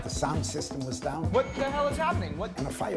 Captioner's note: feedback